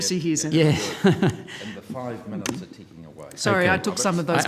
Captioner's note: talking away from microphone